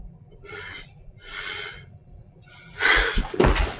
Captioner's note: sobbing